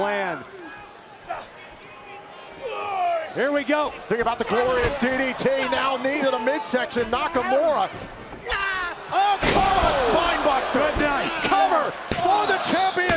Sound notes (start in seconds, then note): 2.6 crowd cheering